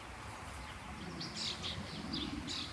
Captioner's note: birds chirping